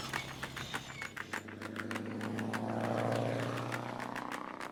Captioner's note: engine roaring